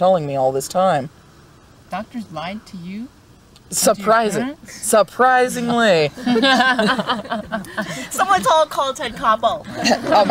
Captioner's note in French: rires